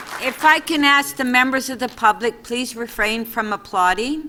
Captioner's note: applause